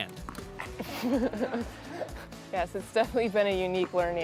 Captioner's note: laughs